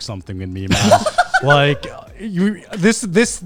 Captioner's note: laughs